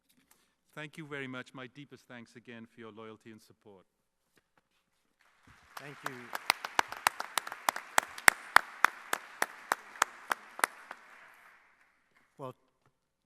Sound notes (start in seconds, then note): 5.2 clapping